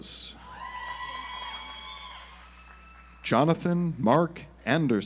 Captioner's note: audience applauds